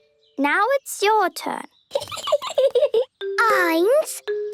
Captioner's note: Peppa giggling